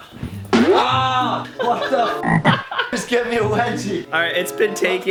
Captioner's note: pained yell; laughter